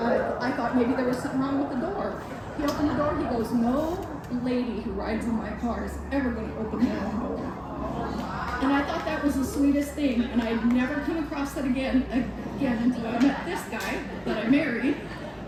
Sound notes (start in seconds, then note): 7.4 audience reacts